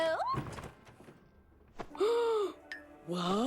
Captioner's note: gasps